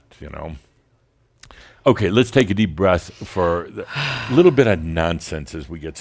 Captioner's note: audibly exhales